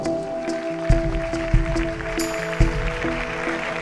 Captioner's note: applause